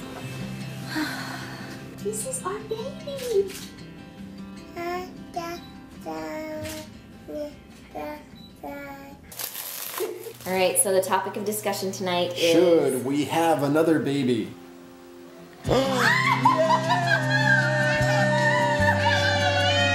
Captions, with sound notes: (exhales) This is our baby. (baby talking) All right so the topic of discussion tonight is-- - Should we have another baby? (laughing)